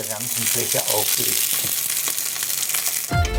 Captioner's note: sizzle